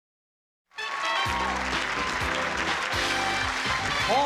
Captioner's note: applause and cheering